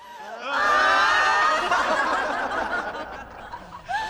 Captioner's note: laughter